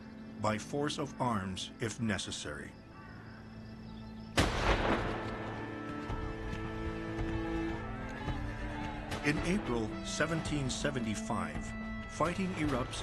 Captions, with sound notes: BY FORCE OF ARMS, IF NECESSARY. [ GUNFIRE ] IN APRIL 1775, FIGHTING ERUPTS IN MASSACHUSETTS